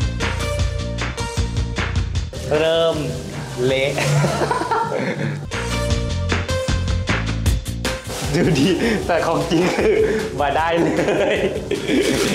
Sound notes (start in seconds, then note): 4.0 laugh; 10.8 laugh